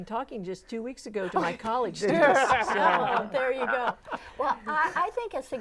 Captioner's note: laughing